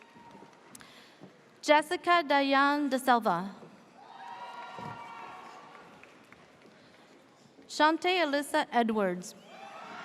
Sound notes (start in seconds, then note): 4.0 audience cheers